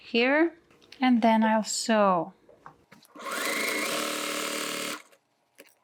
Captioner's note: machine whirring